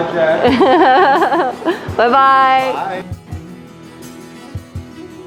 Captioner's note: laughs; smooth instrumental music